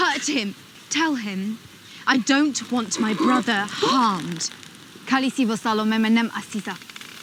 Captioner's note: speaks Dothraki